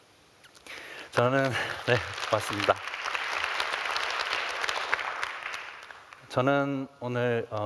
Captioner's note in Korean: 박수